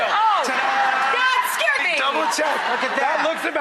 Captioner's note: audience laughs